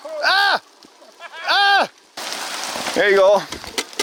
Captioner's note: laughing